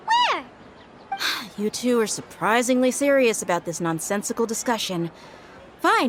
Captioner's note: sigh